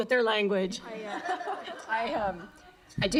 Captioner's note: laughter